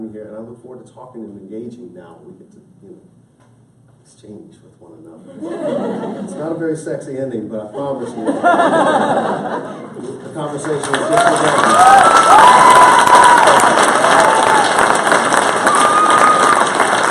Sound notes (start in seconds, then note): 11.2 applause